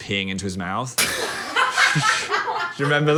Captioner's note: group laughing